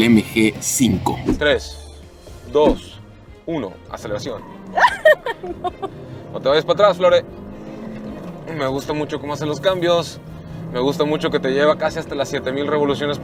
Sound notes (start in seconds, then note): 4.7 laughter